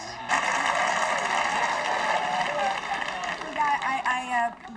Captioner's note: audience applauding